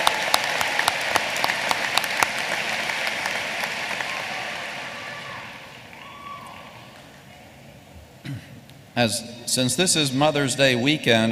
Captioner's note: applause